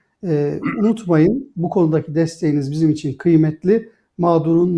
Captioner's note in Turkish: boğazını temizler